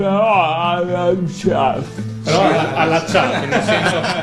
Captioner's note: laughs